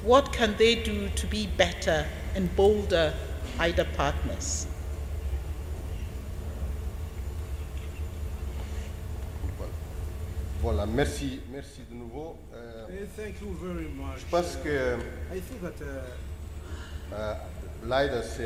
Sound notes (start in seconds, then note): 7.6 speaking French